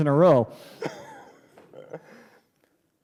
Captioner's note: laughter